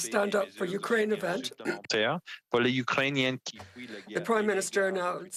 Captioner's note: speaking French